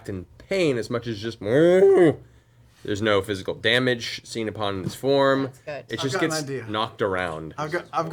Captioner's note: distressed mooing